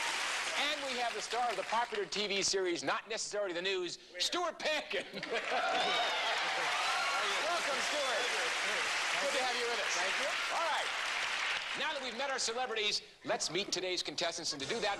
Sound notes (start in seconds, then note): 5.0 laughter; 6.8 applause